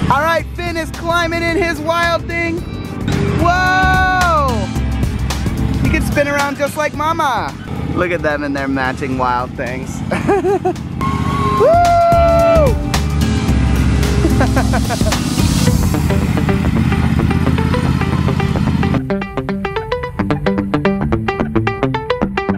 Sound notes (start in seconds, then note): 10.0 laughing and shouting; 13.7 upbeat music